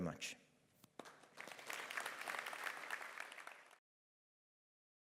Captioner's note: audience applause